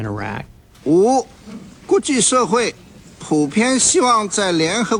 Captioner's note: speaking foreign language